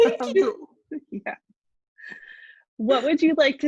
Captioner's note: laughter